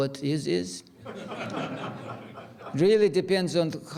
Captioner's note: audience laughs